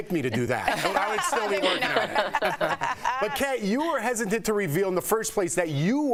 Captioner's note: laughter